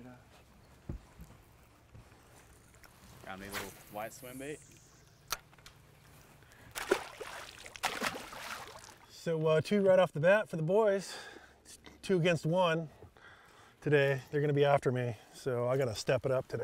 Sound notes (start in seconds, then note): 1.7 rod whipping; 2.8 reel spinning; 6.6 fish splashing